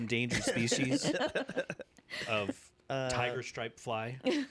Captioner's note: laughter